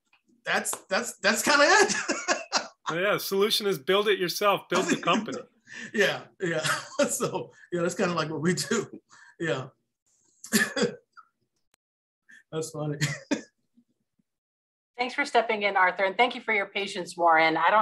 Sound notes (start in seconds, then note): 1.6 laughs; 9.7 laughs